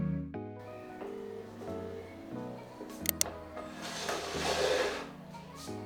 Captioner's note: phone rings